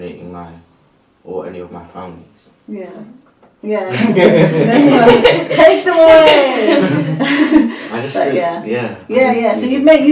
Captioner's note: yeah yeah laughter